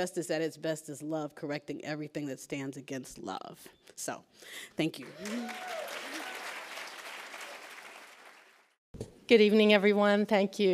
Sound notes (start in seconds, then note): 5.0 applauds; 5.0 cheers